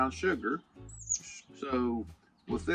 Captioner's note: bird chirping